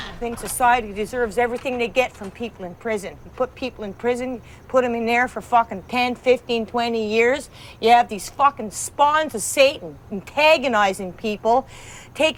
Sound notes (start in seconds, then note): none